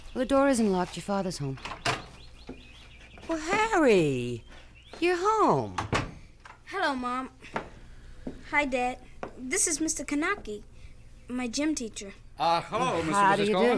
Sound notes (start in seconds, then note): 1.5 door opens; 5.7 door closes